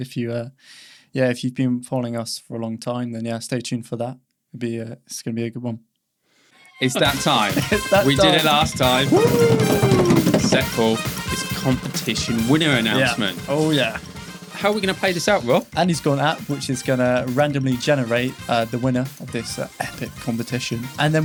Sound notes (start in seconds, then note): 7.4 whooping